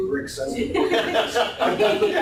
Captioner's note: laughter